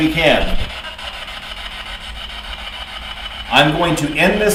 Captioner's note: static buzzing